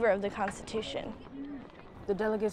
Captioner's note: door rattles